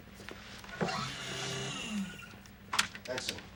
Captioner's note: machine whirring